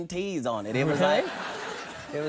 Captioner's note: audience laughing